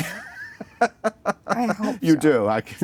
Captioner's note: laughing